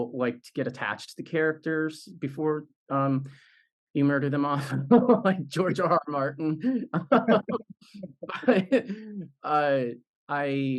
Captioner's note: laugh